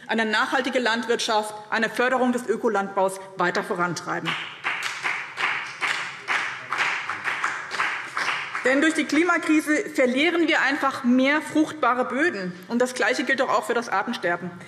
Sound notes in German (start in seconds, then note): 4.2 Beifall BÜNDNIS 90/DIE GRÜNEN und vereinzelt CDU